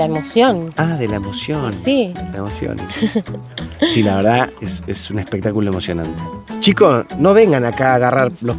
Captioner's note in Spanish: risas